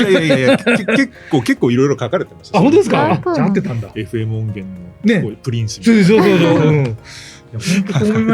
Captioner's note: laugh